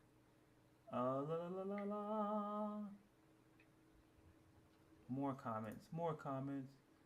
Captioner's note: humming